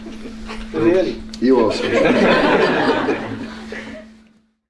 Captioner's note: laughter